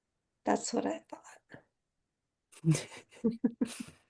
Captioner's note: laugh